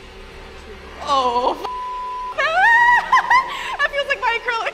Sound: shrieking

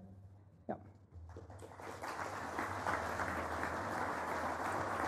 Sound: applause

